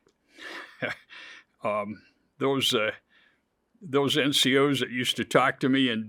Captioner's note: chuckles